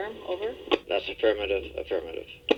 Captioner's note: man On Radio